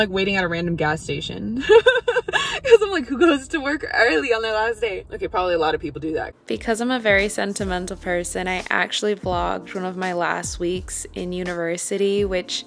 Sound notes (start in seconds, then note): 1.5 laughs